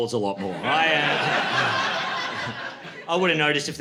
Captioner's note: laughter